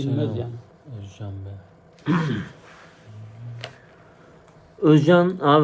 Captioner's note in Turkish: boğazını temizler